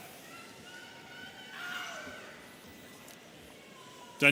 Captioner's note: audience cheering